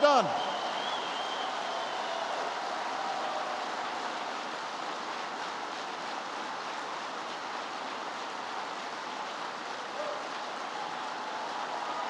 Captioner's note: applause